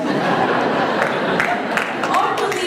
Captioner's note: laughter and applause